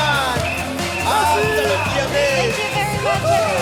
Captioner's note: yelling in French